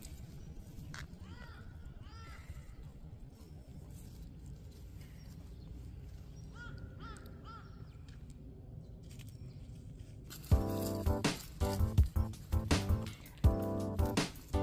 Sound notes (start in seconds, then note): 3.2 crow sounds